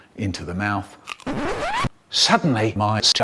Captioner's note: record Screech